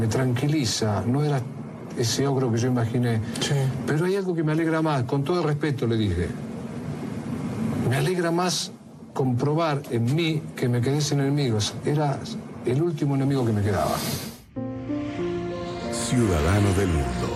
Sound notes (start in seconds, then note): 15.0 airplane sound